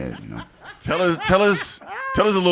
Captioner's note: laughing